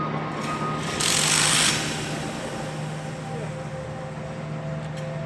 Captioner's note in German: Akkuschrauber Geräusche